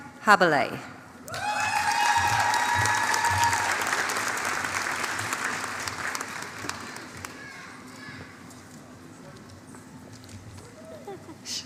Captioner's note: applause